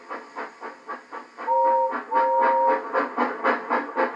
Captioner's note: Gordon's Whistle Blows